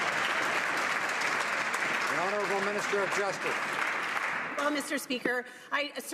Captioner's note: some Applause